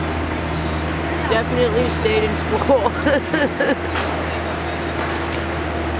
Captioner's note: laughs